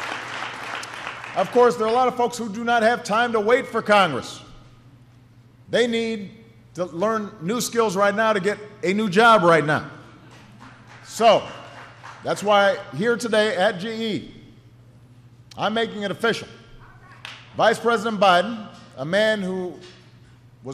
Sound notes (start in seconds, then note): 10.2 applause